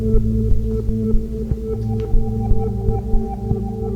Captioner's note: heart beating